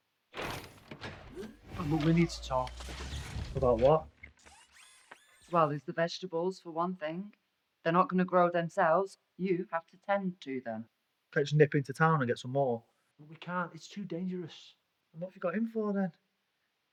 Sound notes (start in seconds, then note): 0.4 Kellogg clattering and whirring; 4.3 Kellogg whirring